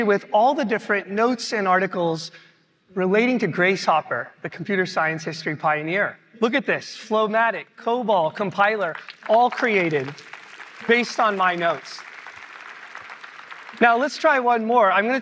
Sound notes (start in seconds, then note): 11.9 applause